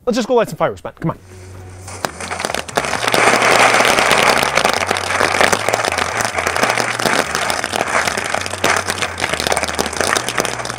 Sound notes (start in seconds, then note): 3.0 music; 4.8 fireworks crackling